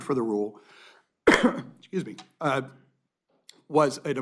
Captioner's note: cough